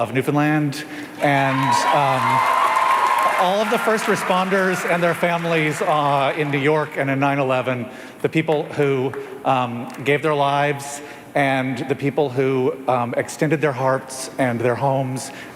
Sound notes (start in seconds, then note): 6.2 cheers and Applause